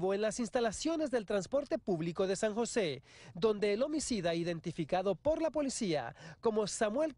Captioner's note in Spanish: habla en ingés